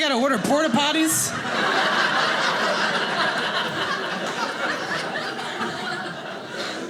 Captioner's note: audience laughing